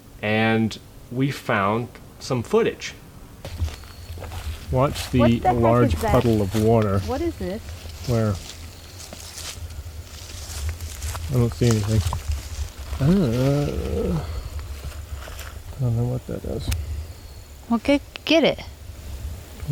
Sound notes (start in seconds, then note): 12.2 leaves rustling; 13.0 groaning